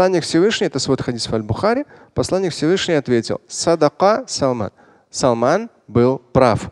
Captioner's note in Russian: говорит на арабском